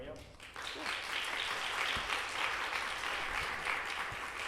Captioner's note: audience applauding